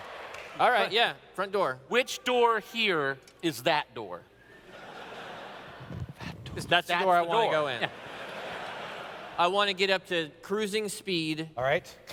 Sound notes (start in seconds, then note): 6.0 whispers